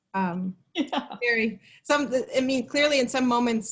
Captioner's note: laughs